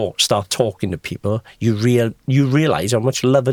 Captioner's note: none